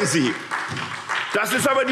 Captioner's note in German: Beifall SPD